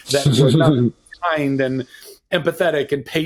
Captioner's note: laughing